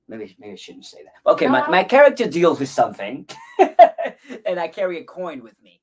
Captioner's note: laughs